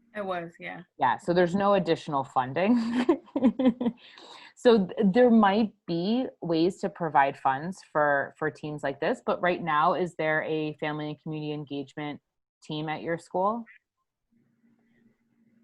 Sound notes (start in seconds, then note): 2.8 laughing